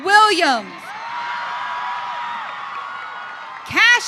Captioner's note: audience cheering